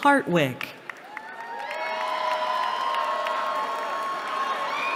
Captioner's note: cheering